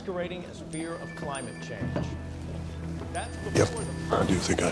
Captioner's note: text message beeping